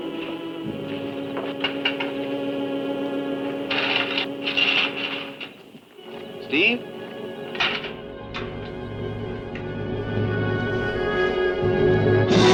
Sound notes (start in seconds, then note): 3.9 bushes rustling; 8.9 ominous orchestral music